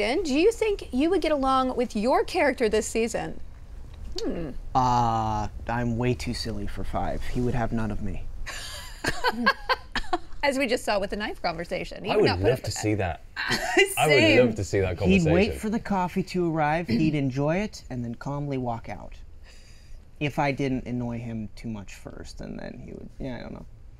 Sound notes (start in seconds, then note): 9.0 laughs; 13.4 Emmy laughs